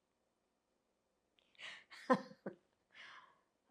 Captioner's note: laughing